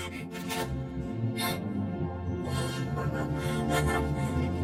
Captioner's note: tense music plays; gasps, whimpers; whimpering frantically